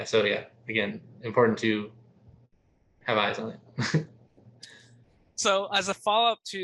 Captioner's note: chuckles